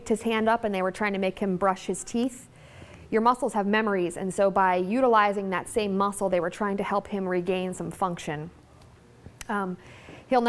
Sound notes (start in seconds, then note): none